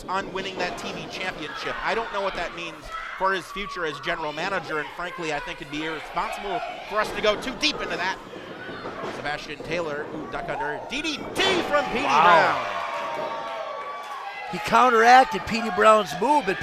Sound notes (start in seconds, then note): 12.9 crowd cheers